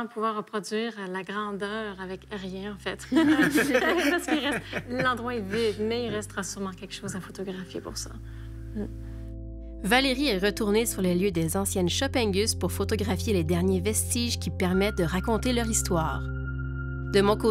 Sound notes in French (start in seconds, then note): 3.1 rires